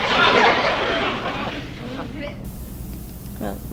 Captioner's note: audience laughs